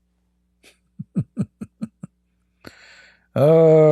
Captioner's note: Ketawa